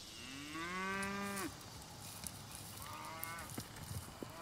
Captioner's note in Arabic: خرير الماشية